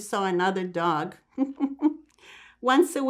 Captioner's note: laughing